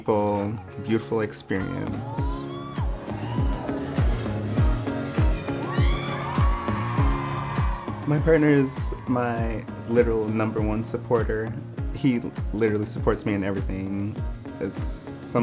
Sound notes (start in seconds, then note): 3.1 upbeat music; 6.6 audience cheering